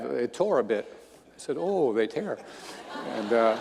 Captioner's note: audience laughing